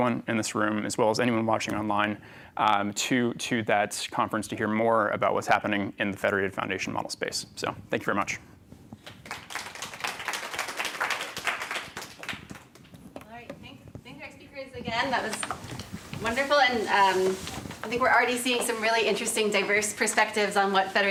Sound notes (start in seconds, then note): 10.8 applause